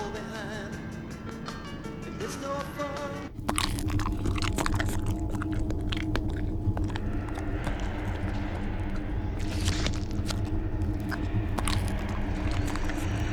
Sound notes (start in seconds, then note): 3.7 alien munching